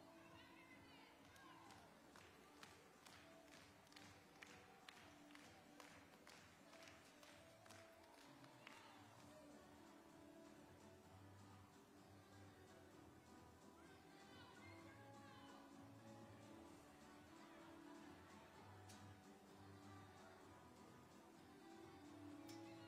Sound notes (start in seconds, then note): 0.0 upbeat music playing; 1.2 hands clapping; 1.9 upbeat music playing